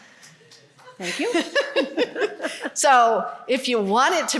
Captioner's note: laughter